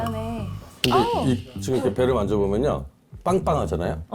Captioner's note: in a voice giving an opinion